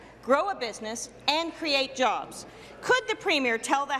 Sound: none

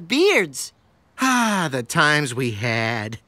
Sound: sighing

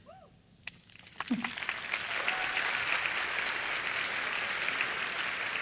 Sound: applause

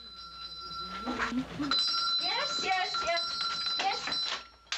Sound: doorbell tinkling

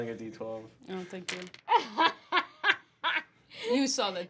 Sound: laughing

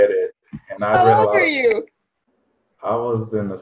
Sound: laughing

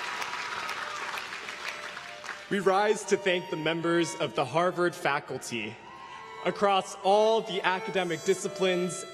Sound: applause

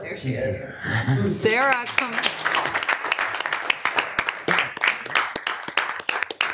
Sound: audience applauding

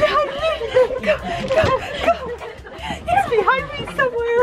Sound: laughing

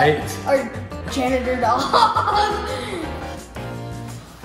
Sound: laughing

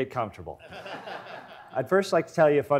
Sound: audience laughs

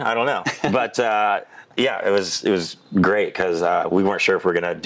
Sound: laughing

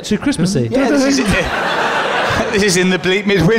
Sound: laughter

